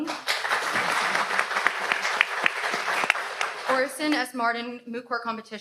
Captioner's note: audience applauds